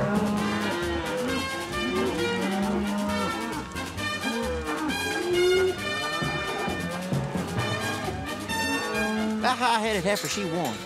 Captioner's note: mooing